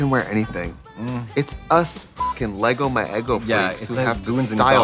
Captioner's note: beeping